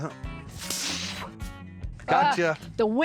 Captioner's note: spitting